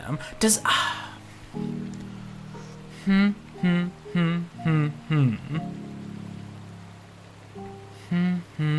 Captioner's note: humming